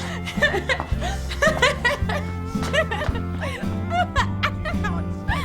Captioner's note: Carol Ann laughing